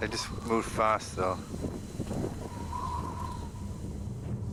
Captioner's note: wind whistling; haunting music